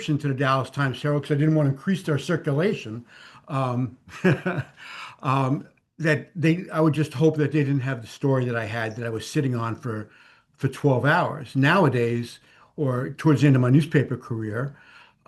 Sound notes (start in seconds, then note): 4.0 laughs